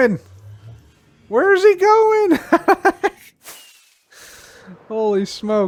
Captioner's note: laughs